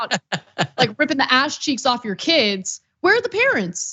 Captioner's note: laugh